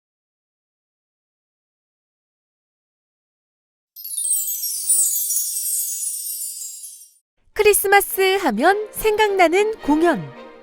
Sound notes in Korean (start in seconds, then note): 3.9 반짝이는 효과음; 9.6 밝은 음악